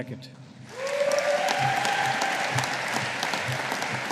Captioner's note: audience applauding